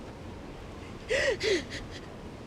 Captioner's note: sobbing